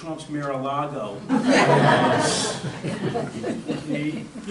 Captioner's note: audience laughter